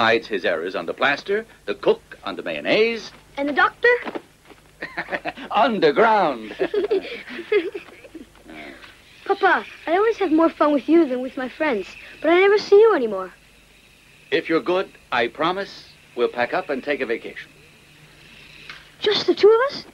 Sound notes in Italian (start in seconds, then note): 6.4 risate